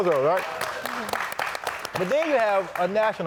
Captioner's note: audience applauding